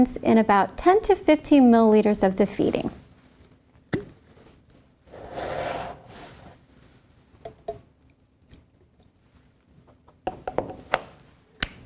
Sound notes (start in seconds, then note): 4.3 jar lid opening; 8.2 formula pours into bottle